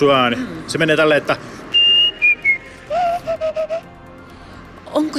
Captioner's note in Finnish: viheltää